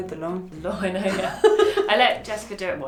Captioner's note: laughs